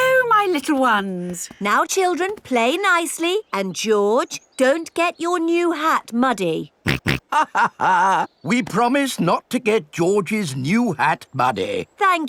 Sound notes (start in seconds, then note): 6.9 snorts; 6.9 chuckles